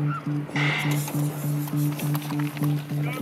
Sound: electronic starting signal

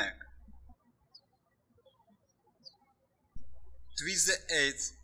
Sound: birds chirping

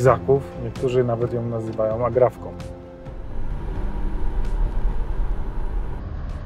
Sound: car noise

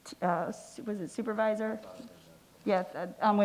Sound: faintly speaking

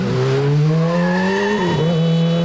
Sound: tires screeching; honking

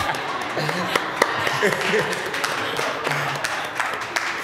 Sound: laughter; applause

